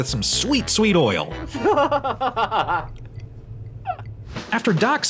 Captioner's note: laughs